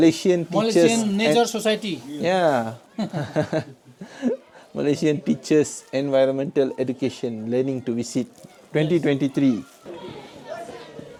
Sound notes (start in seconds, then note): 2.9 laugh